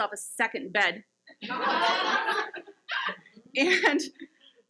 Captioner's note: audience laughs